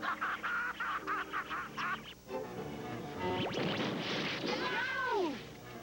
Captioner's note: laughs